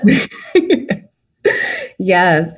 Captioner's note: laughing